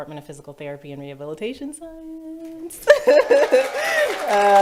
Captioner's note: laughs; audience cheers and applauds